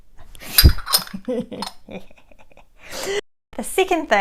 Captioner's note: laughs playfully